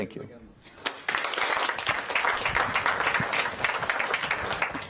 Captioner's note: applause